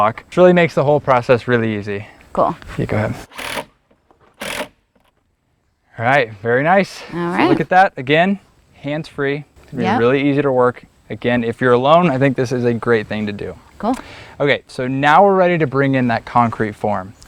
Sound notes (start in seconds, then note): 4.4 drill whirring, no additional audio